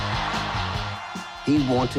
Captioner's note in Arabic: هتاف الجمهور